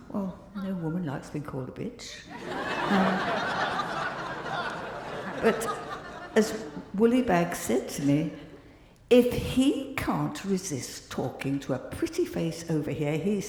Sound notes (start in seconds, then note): 2.3 crowd laughing